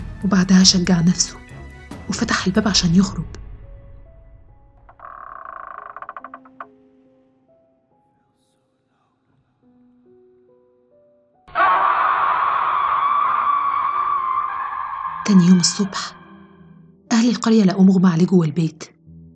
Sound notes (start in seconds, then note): 4.8 door opening; 11.5 witch screaming